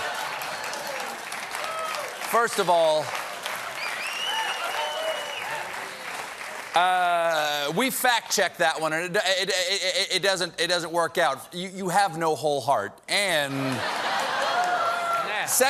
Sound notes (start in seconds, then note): 2.3 applause; 5.6 applause